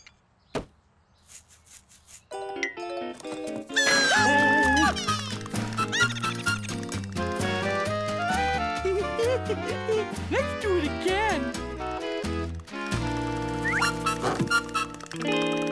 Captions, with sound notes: (Tiny and Loud screaming) (Bunny squealing) (Tiny chuckling) Let's do it again. (Teeth chattering)